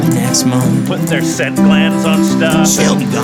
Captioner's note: laughing